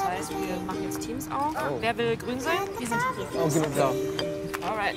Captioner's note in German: Fröhliche Musik; leises Gespräch im Hintergrund